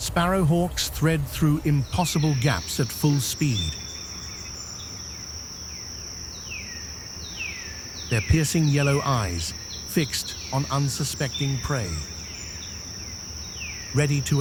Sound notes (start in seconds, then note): 8.1 birds chirping